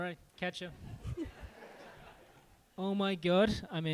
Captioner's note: group laughing